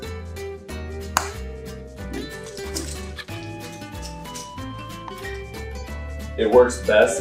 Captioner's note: snap